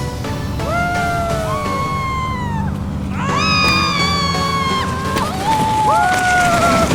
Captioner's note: screams